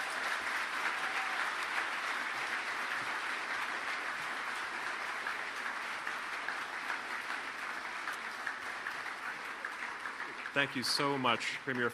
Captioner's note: applause